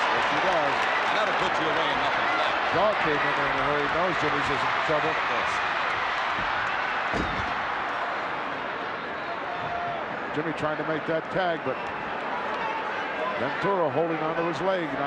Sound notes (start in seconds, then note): 6.0 crowd yelling